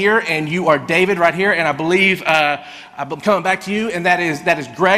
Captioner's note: none